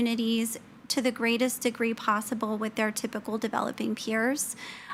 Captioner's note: none